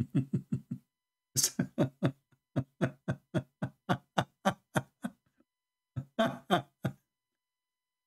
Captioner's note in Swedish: Skratt